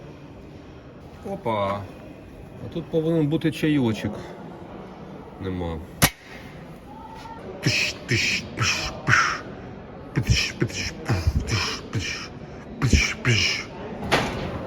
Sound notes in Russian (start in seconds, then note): 7.9 Имитирует тяжелый звук